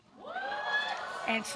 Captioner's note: audience exclaiming